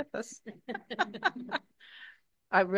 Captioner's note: all laughing